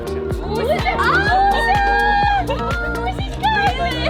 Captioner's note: speaking faintly; screams; speaks faintly